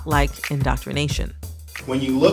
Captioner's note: soundbite of archived recording